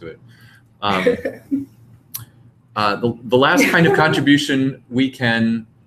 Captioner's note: laugh